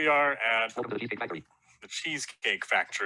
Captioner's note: automated Voice